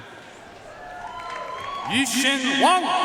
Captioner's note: audience cheering and applauding